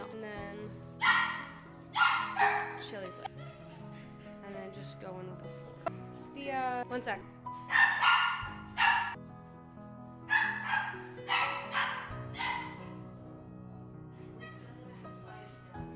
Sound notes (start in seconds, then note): 7.6 dog Barking; 9.1 soft Music